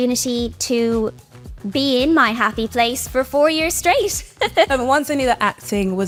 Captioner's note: laughs